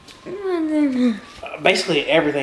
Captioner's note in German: murmelt